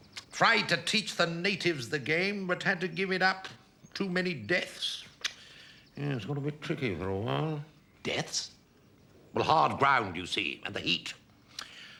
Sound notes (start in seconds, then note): none